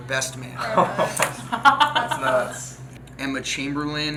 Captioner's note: laughing